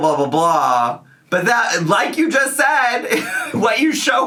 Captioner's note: laughs